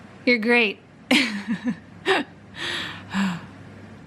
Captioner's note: tired laugh